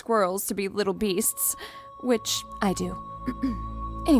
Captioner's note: clears throat